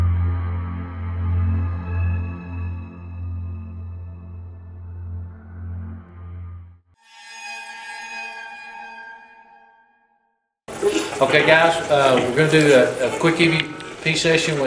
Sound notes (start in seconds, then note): 0.0 spooky music; 7.0 spooky sound effect